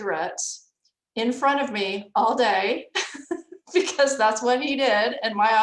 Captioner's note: laughs